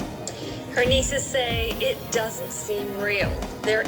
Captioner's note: on TV